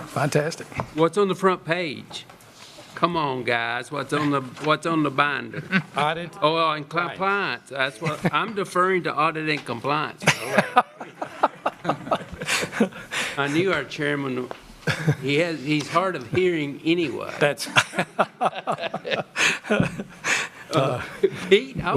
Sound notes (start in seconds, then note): 10.3 laughter from the audience